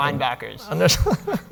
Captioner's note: laughing